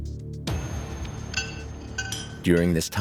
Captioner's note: hammering sounds